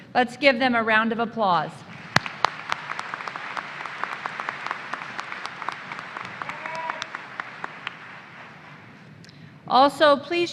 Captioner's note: applause